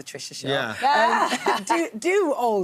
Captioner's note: laughs